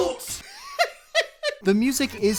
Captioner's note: chuckling